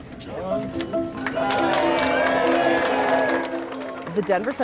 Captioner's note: applause